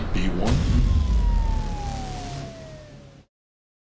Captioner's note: siren wailing